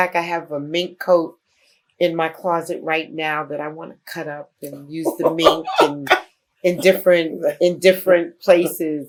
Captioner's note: laughter